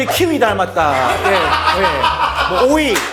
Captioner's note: ha ha ha ha ha